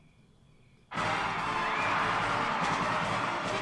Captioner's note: cheering and applause; band playing